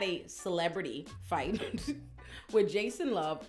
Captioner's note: laughs